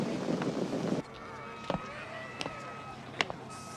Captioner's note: indistinct chatter